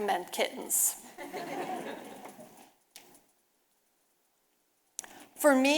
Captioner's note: audience laughing